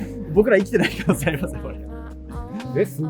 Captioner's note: laughing